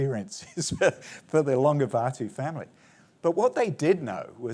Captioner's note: chuckles